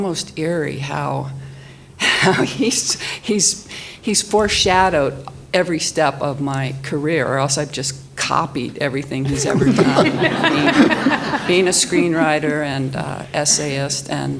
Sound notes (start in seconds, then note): 2.0 laughs; 9.2 audience laughs